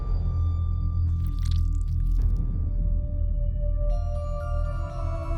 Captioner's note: suspenseful music continues; object squishing